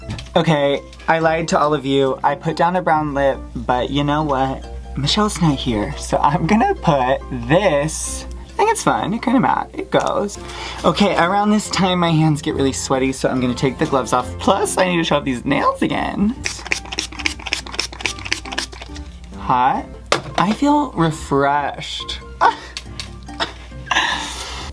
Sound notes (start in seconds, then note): 16.4 setting spray noises